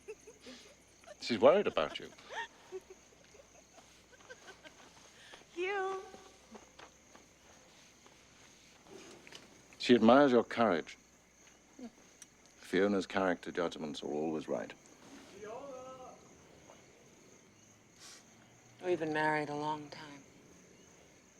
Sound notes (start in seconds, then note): 0.0 fiona laughing; 2.4 laughing